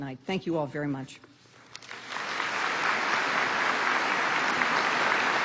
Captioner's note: applause